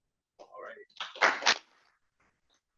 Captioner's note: applause